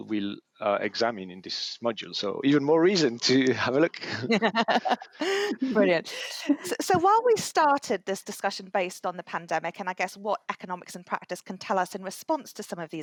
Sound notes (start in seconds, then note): 3.2 laughter